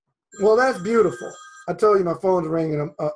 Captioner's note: phone rings